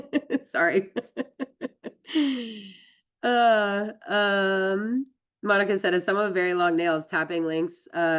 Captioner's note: laughs